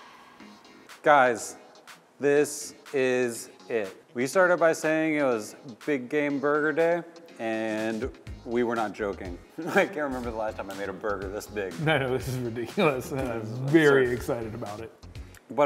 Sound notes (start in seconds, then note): 9.7 chuckles